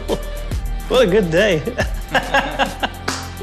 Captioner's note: laughs